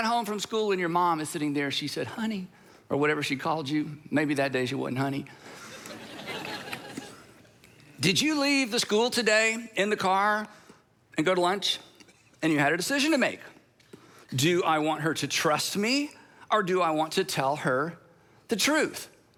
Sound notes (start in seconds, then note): 5.6 congregation laughing